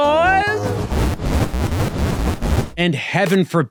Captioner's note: booping